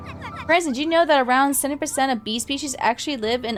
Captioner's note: laughs